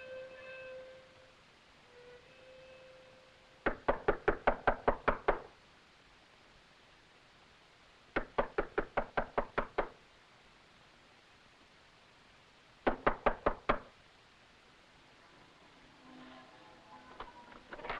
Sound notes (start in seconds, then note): 3.6 knocking on door; 8.2 knocking on door; 15.1 bells pealing